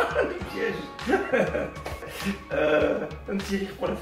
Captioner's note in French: rires